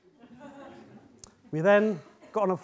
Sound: audience laughing

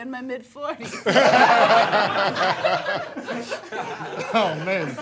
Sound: laughter

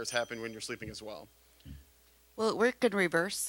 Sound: bell dinging

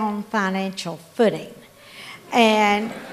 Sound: laughter

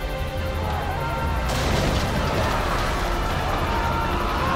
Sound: sailors shouting

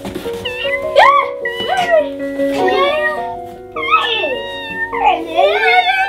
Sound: meowing

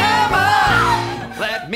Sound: screams

